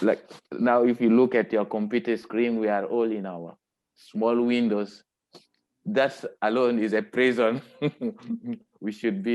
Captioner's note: chuckling